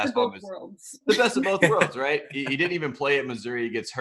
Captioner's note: laughing